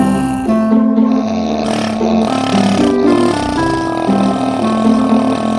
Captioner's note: snoring like a saw; snoring like a motorbike